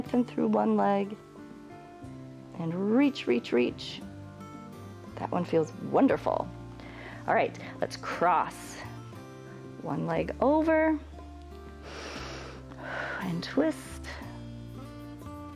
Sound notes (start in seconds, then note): 11.7 inhales and exhales